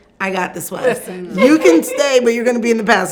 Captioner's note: laughs